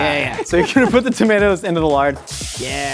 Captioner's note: Rhett laughs